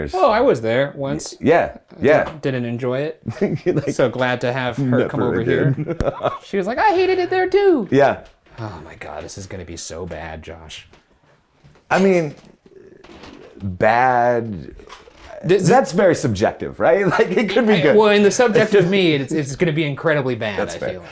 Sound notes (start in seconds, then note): 3.3 laughs